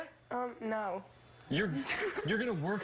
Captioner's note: laughter